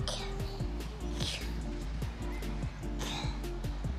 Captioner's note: panting